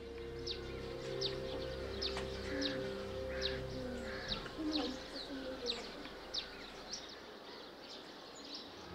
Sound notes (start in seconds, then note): 1.1 birds chirping